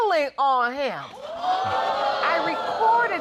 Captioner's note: audience exclaiming